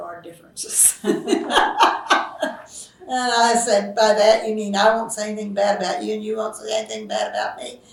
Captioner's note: laughs